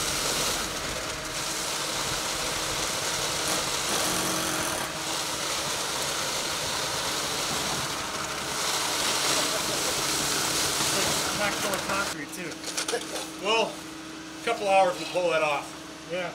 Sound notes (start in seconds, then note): 4.1 machine drilling; 7.9 cement pumping